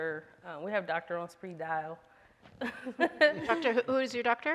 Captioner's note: laughs